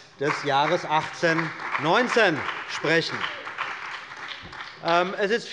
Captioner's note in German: Beifall bei der CDU und dem BÜNDNIS 90/DIE GRÜNEN